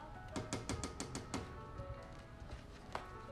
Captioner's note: door knocking; lively piano music